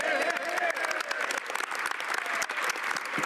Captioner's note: speaking French